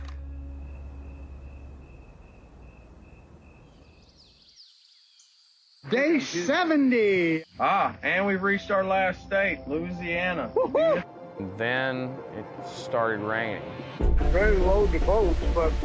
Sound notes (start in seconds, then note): 0.2 crickets; 4.1 birds chirping